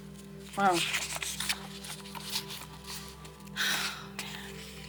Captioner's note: paper rustling